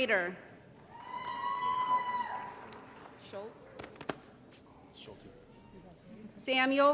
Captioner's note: applause & Cheering